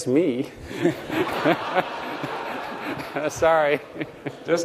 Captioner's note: laughter